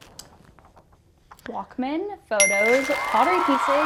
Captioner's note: chime